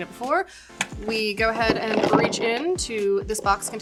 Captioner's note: bottles rattling